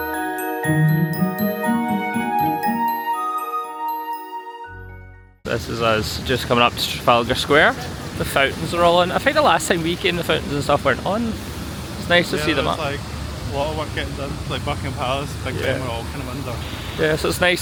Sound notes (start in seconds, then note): none